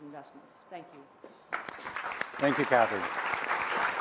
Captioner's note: applause